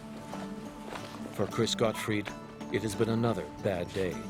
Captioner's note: voiceover